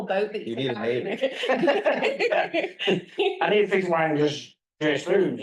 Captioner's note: laugh